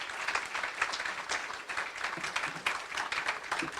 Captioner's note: applause